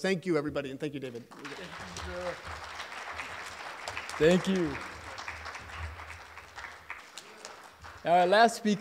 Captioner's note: applause